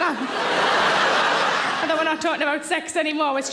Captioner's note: audience laughing